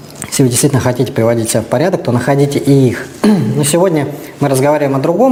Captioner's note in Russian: откашливается